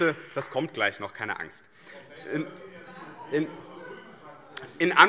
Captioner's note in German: Heiterkeit BÜNDNIS 90/DIE GRÜNEN - Zurufe SPD